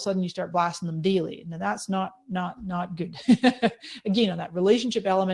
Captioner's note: laughing